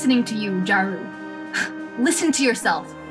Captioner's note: grade-a scoff